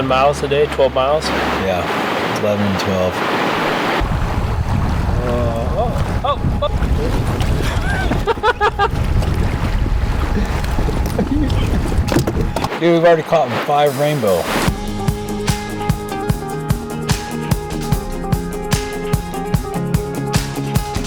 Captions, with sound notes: miles a day, 12 miles? Yeah, 11 and 12. Oh, oh, oh! (laughing) Dude, we've already caught five rainbow. (upbeat music) (upbeat music)